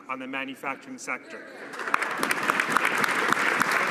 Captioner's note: some Applause